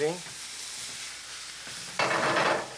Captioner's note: sizzling